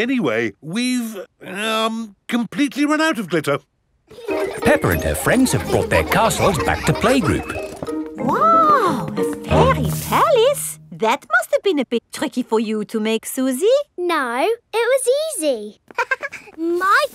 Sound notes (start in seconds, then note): 4.1 children laughing; 15.9 chuckles